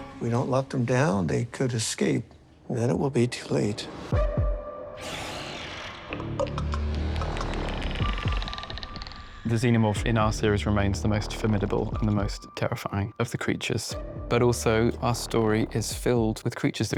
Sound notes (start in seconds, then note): 4.0 sinister music; 6.1 clicking